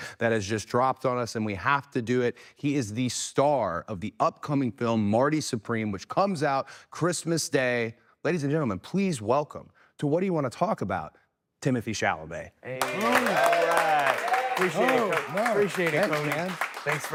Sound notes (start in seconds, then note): 12.7 people cheering and clapping